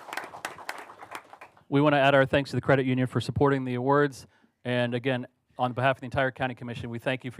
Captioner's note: applause